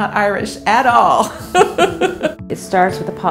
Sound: laughing

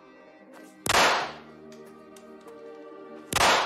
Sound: gunshots

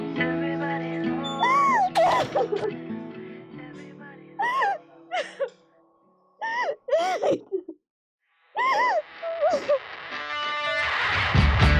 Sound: crying

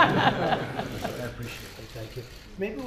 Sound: laughter

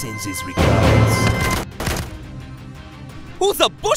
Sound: gunshots

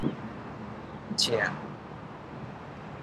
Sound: in Thai

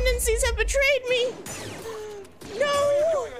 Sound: blaster sounds

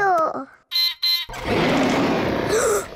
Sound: beeps and roars; gasps and cries

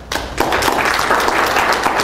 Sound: audience applauds

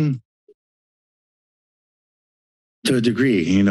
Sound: silence

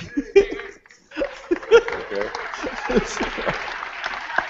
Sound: applause

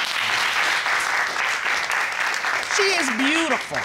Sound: audience applauding

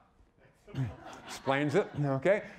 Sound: audience laughing

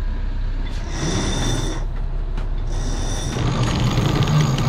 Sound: rope whirring

